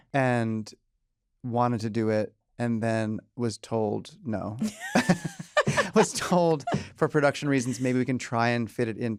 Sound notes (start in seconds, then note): 4.6 laughter